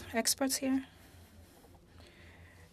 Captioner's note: speaking French